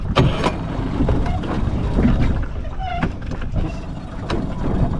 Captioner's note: motor turning; motor rumbling